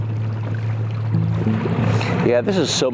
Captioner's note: water gurgling